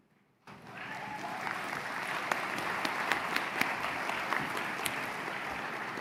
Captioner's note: applause